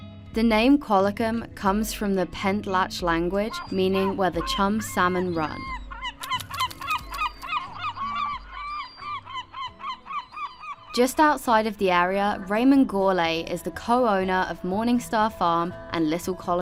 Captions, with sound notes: The name Qualicum comes from the Pentlatch language meaning where the chum salmon run. [seagulls calling] Just outside of the area, Raymond Gourlay is the co-owner of Morningstar Farm and Little Qualicum